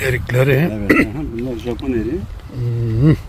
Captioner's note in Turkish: boğazını temizler